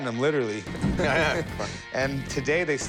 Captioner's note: both laughing